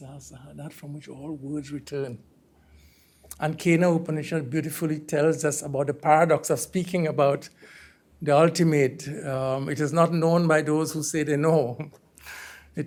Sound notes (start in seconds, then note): 3.6 hindi